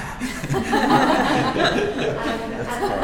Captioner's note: laughing